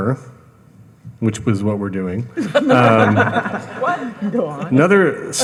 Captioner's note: all laughing